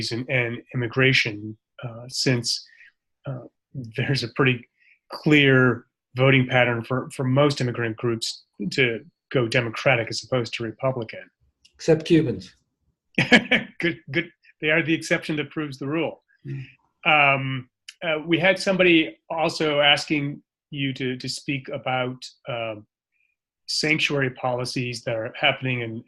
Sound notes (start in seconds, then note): 13.2 laughs